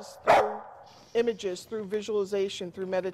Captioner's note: dog barking